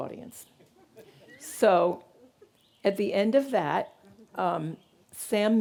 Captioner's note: audience laughing